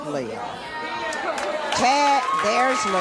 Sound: cheers

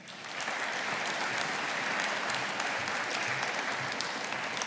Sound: audience applauding

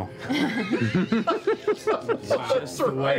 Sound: laughter

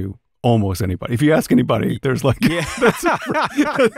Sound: laughter

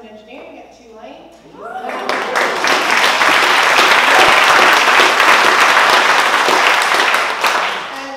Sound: applause

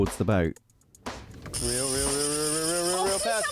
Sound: zzzzzz

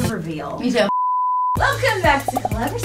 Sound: beep

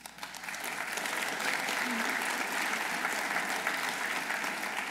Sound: audience applauding

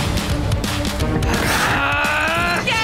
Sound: growling

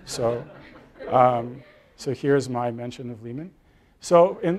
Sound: laugh

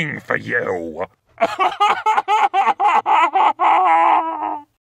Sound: maniacal Laughter

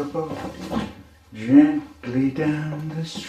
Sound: thump

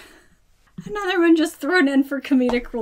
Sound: laughs

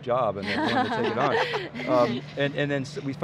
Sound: laughing

